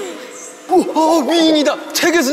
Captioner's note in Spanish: Alboroto